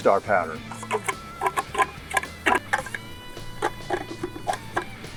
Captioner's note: tool clicking